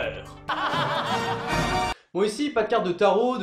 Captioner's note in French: rire diabolique